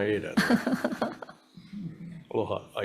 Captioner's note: laughs